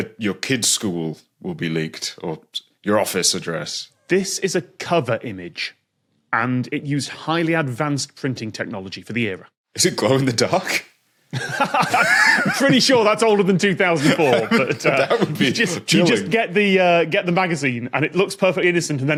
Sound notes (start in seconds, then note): 11.3 laughs heartily